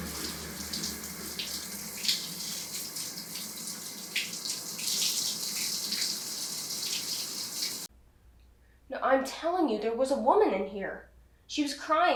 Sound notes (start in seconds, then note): 8.5 water running